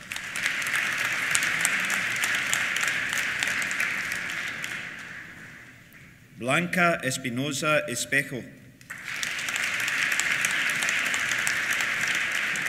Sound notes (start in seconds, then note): 0.0 applause; 8.8 applause